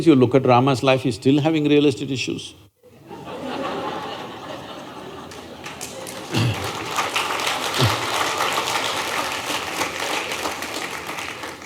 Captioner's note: laughter/Applause